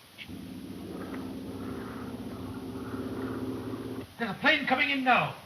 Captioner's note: airplane engine roaring